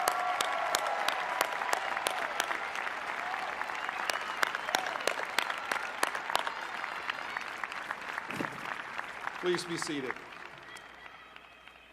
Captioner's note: cheers and applause